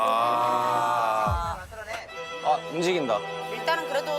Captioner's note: train departs